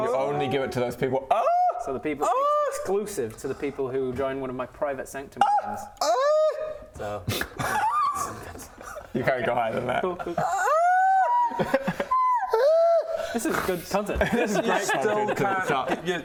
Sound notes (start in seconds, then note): 7.7 girly eeeeeeee